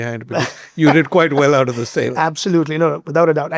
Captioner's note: laughing